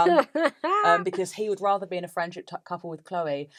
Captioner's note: laughs